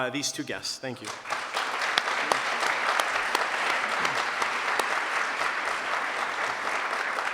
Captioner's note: applause